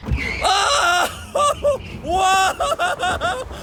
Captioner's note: screams